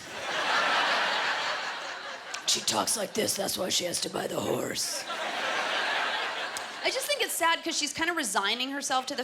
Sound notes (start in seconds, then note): 5.0 laughter; 6.0 regular voice